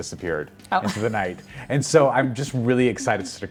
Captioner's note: laughing